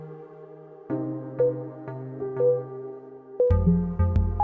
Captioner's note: timer beeping